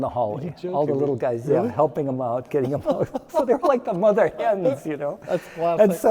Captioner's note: laughing